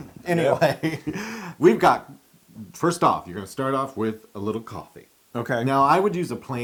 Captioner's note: laugh